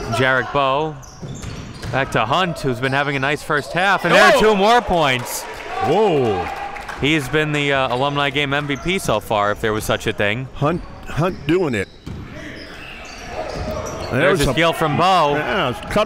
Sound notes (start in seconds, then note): 4.0 exclaiming; 4.8 applauding